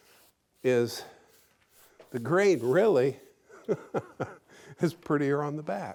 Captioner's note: laughing